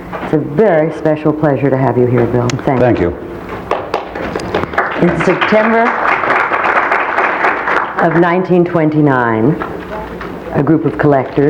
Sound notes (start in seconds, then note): 3.6 audience applauding